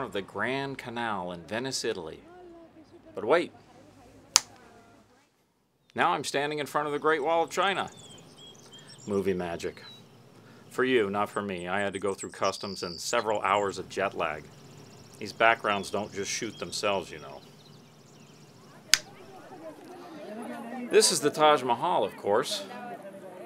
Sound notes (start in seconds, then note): 4.3 snap fingers; 18.9 snap fingers